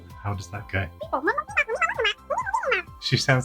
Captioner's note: animalese sound